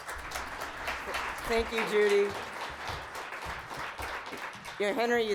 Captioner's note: applause